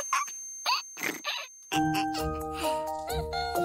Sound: both chuckle

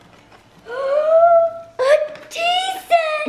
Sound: gasps

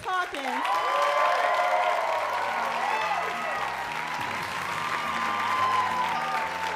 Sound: cheers and applause

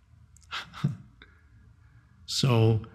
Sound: Eckhart laughing

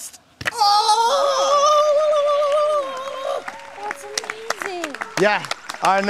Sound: clapping

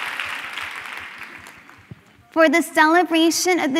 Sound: applause

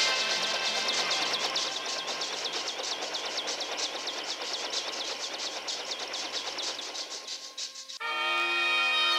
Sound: helicopter noise

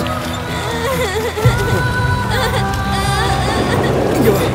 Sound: breaking window with stone

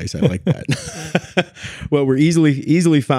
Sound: laughing

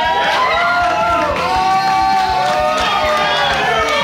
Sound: crowd cheering

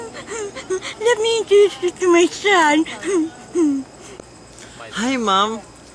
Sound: giggle; giggle

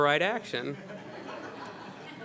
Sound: laughter

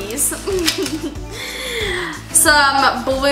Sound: laughs

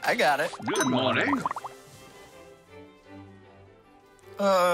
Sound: british Voice

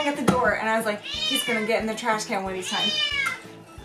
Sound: meow; cat meows

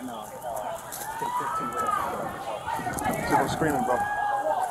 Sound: people hollering

